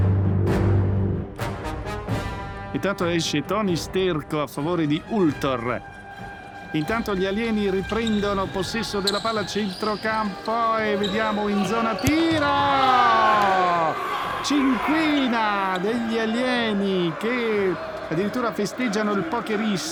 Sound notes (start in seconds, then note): 12.3 Gaetanis exhulting